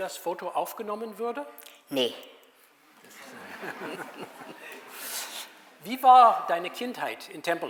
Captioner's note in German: Publikum lacht